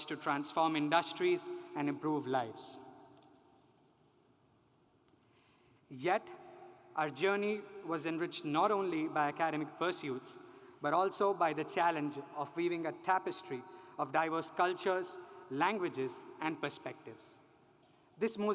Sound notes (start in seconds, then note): none